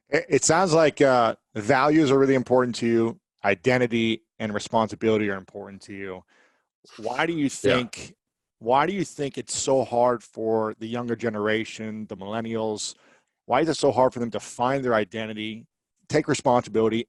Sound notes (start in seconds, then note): 7.5 chuckles